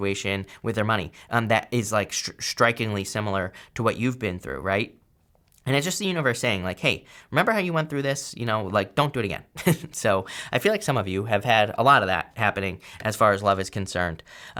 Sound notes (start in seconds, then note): 9.5 laughs